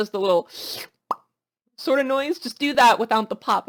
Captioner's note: Makes air sucking noise followed by a pop / "TheeUp pop"